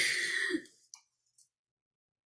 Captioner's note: silence